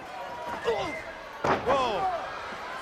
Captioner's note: crowd chatter